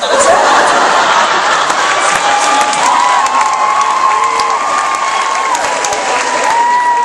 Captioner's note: audience cheering